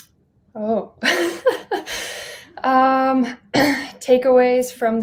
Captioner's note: chuckling